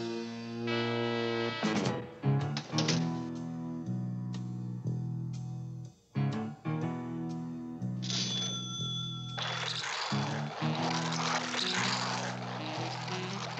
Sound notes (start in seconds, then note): 8.0 cash register rings